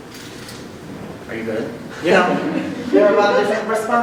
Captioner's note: chuckles